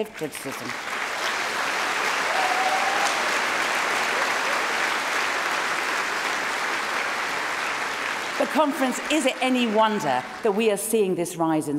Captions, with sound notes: passing laws to stone same-sex couples to death and in none of these cases does the Commonwealth say a single word of collective criticism. (Cheering & Applause)